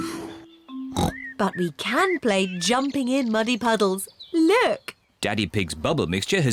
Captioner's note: oinks